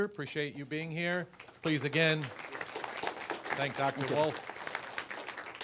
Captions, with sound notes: Appreciate you being here. Please, again... (applause) thank Dr. Wolfe. (applause)